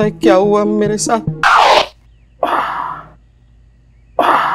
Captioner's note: Moaning